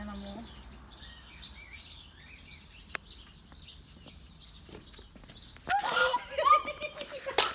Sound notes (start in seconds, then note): 0.0 birds Chirping; 5.7 female scream; 5.7 male laughter